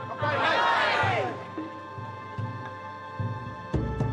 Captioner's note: crowd toasting; tense music